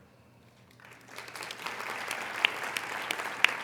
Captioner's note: applauding